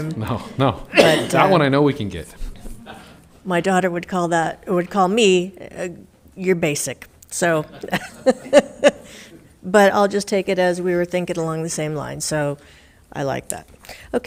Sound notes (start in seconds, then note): 7.7 laughing